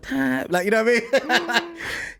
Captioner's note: laughs